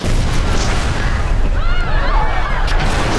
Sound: screaming

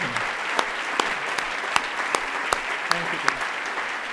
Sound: audience applauds

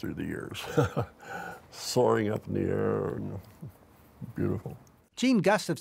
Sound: laughs

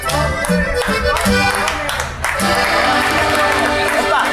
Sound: aplausos

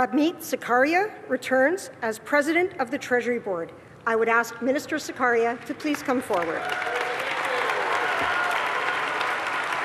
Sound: applause

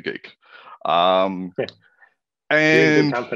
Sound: laughte

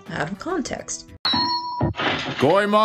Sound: metal clangs

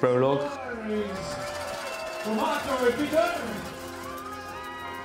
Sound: non-english speech

